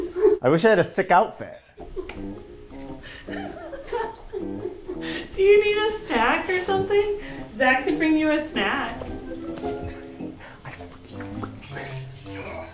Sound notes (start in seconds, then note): 1.8 crew laughing